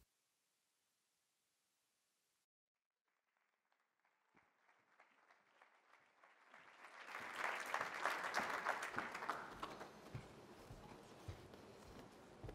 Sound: applause

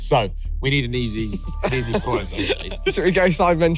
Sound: laughing

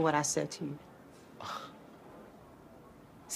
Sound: aaron scoffs

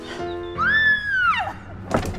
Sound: screaming

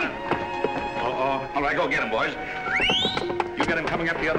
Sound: whistles

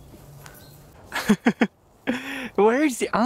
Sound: laughs

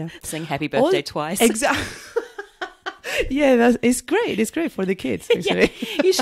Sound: laughs

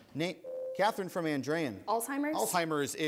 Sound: ding

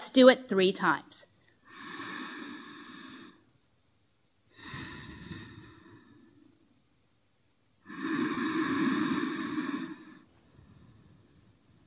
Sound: breathing

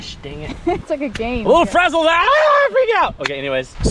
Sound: talking gibberish

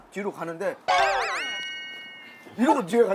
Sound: worried

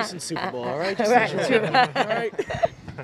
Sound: laughs

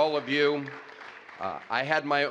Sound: applause

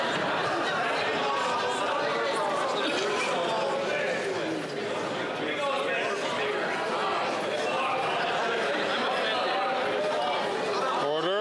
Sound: yelling

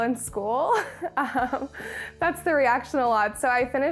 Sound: chuckles

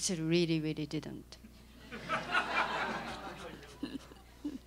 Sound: laughter

